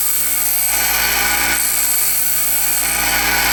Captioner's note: grinding